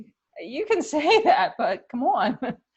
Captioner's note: laughter